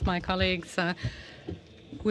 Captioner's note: speaking french